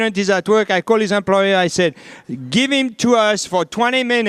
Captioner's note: none